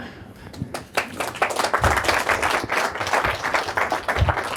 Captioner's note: audience applauding